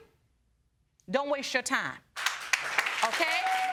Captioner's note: audience clapping and cheering